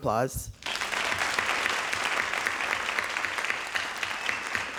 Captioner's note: audience applauding